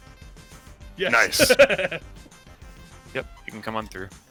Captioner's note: laughs